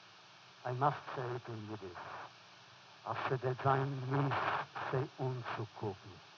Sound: foreign language

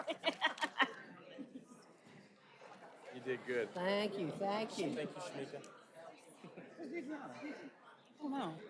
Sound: laughter

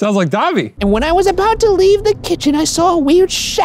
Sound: silly voice

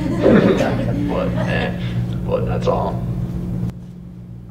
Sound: laughter

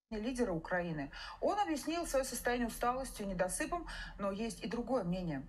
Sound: speaking in Russian

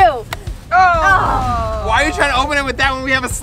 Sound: groans

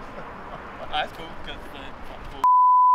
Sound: laughing; beeps

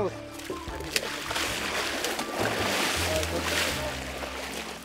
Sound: water splashing

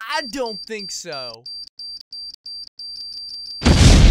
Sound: beeping extremely fast; beeping really fast

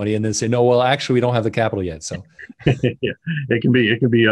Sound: chuckles

